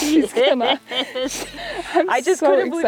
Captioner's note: laughing